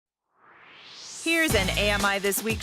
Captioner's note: swoosh